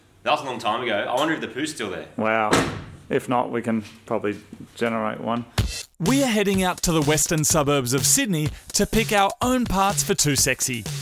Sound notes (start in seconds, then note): 2.4 door closes